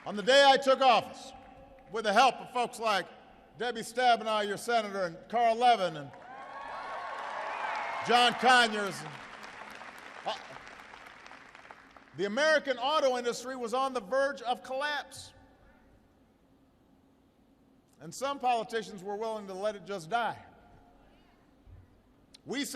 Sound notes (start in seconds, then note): 9.4 applause